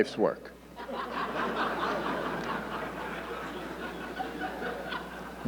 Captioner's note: audience laughing